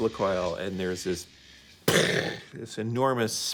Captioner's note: makes explosion sound